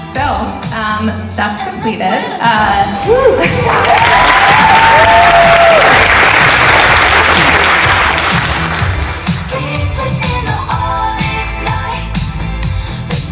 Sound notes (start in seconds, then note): 3.0 audience member cheers; 3.4 audience applauding